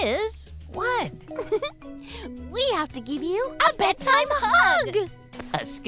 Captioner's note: chuckles